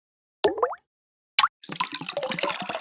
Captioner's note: droplet plops; water gurgles